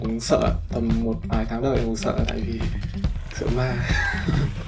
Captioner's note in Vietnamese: cười